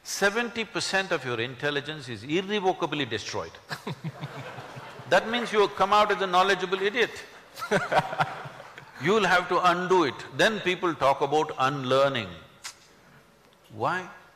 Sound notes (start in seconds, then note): 3.7 laughter; 7.6 speaker laughs